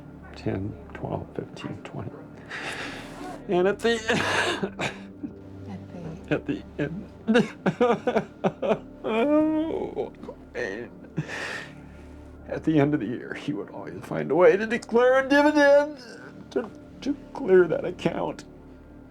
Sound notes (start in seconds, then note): 3.9 sobs; 7.3 sobbing